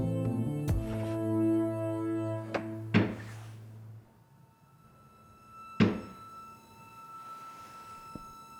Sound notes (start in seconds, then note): 2.5 loud banging; 2.5 suspenseful music